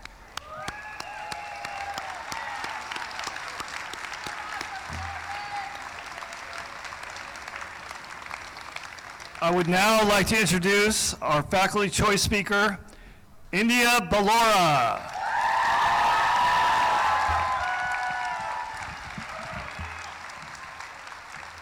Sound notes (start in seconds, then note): 0.0 applause; 0.3 cheering; 14.4 cheering; 16.9 applause